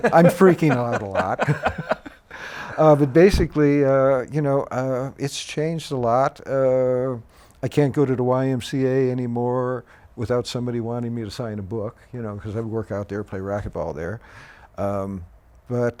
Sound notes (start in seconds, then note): 0.0 laughing